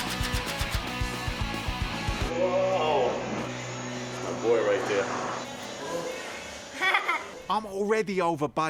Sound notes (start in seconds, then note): 6.7 laughs